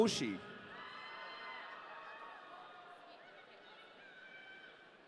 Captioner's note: audience cheering